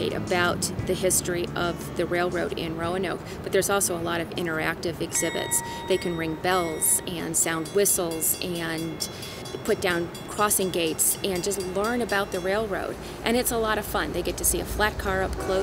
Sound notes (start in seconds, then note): 5.1 dings; 7.8 rail crossing bells; 15.3 train horn blaring